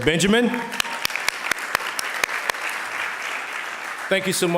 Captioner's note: audience applauding